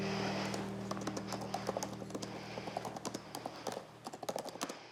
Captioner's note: fingers tap keyboard